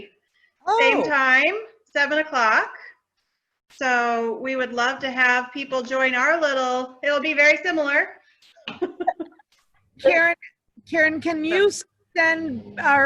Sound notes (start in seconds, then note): 8.7 laughs